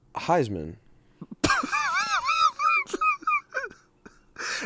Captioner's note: laughs